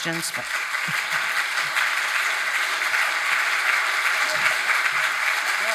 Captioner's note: audience applauding